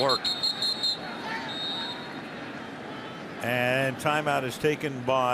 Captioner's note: whistle